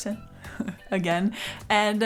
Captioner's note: laughs